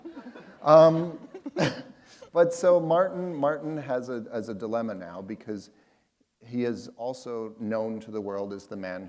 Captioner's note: laughter